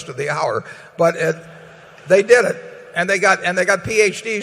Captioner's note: laughter